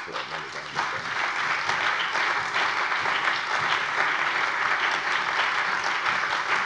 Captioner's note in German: Anhaltender allgemeiner Beifall